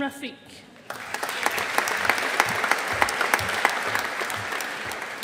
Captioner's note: audience applauding